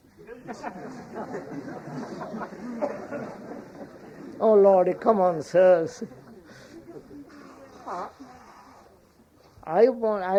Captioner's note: laughter